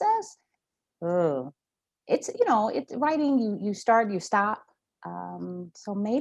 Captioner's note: groans